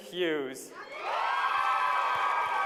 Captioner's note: applause